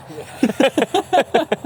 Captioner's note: laughing